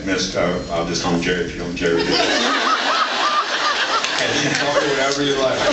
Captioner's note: laughs